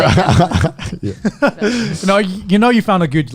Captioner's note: laughs